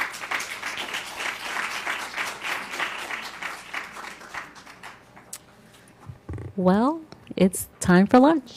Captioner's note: applause